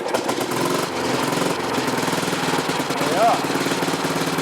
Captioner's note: engine rattling